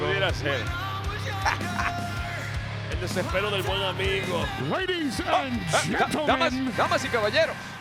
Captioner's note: laugh